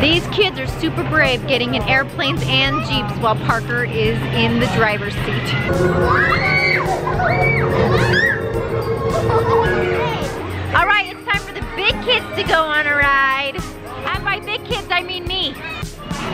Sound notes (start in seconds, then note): 5.4 shrieks